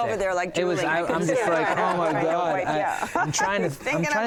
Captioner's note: laughter